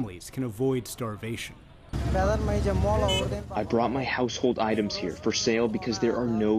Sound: through translator

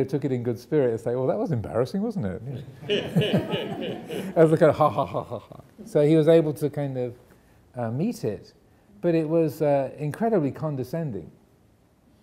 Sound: audience laughing

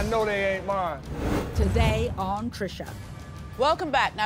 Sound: voiceover

